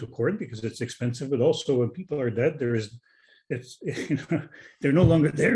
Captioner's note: chuckling